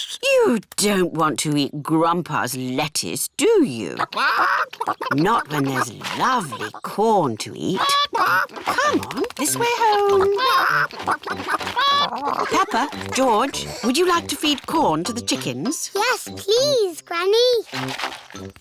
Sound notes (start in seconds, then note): 4.1 chickens chatter